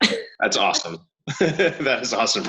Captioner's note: chuckling